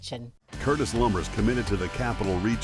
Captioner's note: voiceover